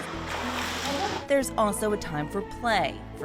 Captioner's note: water splashing